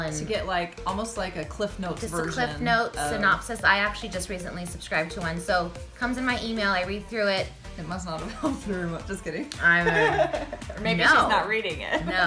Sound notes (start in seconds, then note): 9.8 laughing